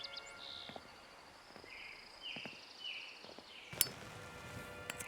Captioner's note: birds chirping continues